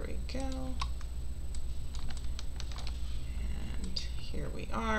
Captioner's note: mouse clicking